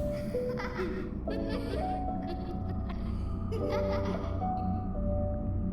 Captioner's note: laughter